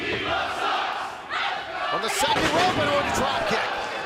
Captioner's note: fans chanting